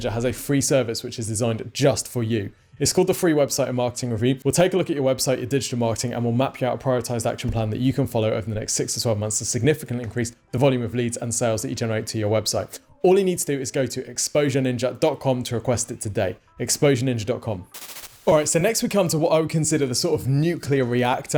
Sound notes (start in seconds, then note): 17.7 static fizzles